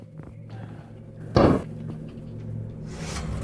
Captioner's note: fridge door slams